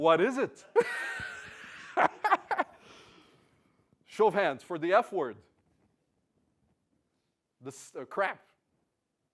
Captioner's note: laugh